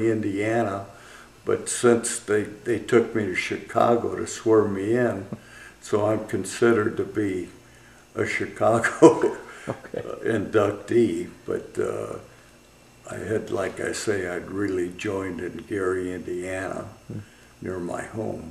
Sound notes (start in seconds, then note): 11.6 laughs